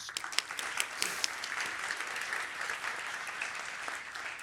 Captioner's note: applause